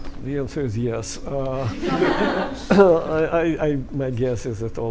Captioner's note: laughter